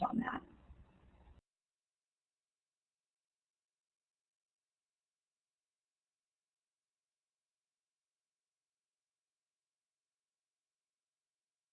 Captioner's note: silence